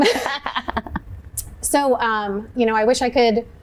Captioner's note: laughs